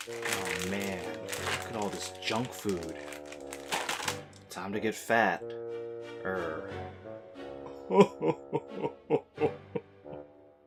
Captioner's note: sobs